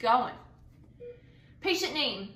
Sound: beeping

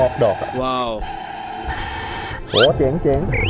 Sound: breathing

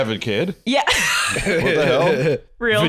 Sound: laughs

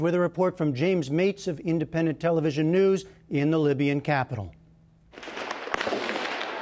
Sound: gunfire

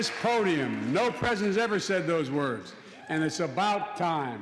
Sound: cheers and applause

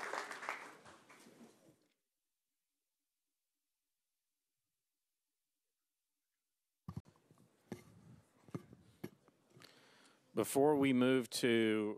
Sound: applause

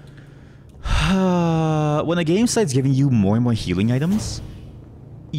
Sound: exasperated sigh

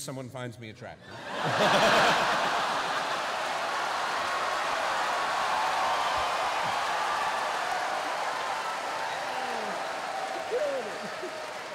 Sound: cheering

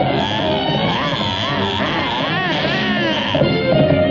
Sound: yells

